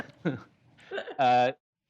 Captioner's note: laughter